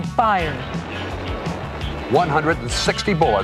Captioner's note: guns firing